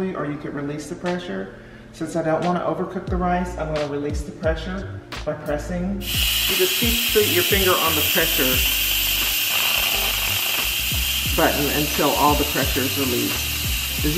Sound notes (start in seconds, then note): 6.2 air whooshing